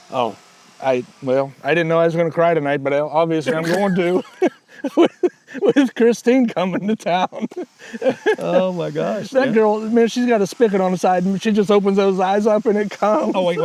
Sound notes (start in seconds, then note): 7.3 laughing